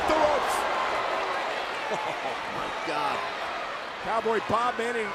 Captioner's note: applause; laugh